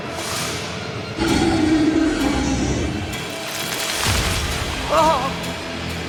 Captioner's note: creature growling